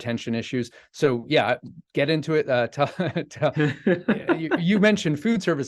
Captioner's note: chuckling